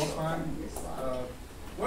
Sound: laughing and murmuring

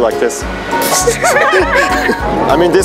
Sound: laughing

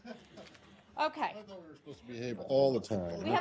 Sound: laughter

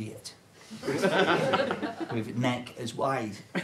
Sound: audience laughter

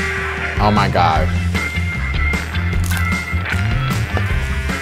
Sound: crunches

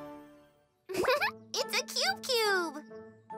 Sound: chuckles

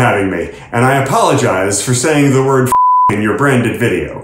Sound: beep

